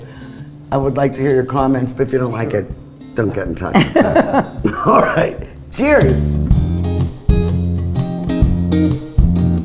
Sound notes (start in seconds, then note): 3.7 laughing; 5.7 upbeat music